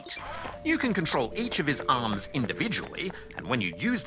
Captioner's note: sighs